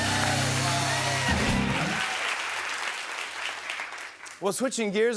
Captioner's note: cheers and applause